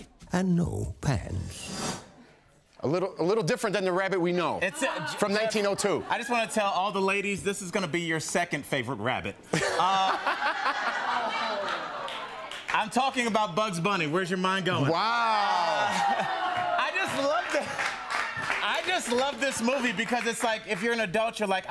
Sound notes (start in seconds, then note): 9.5 laughter